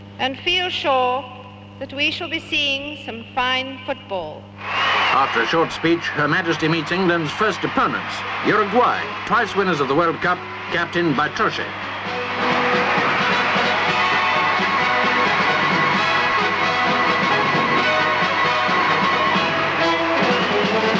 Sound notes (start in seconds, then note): 5.1 crowd cheering; 11.7 bright brass band music